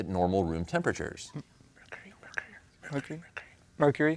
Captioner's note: whispers